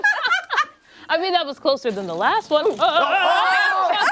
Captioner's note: laughter